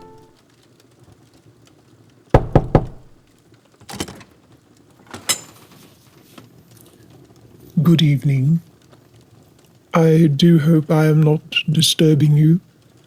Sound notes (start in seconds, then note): 2.3 three Knocks